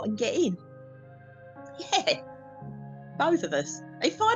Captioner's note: laughs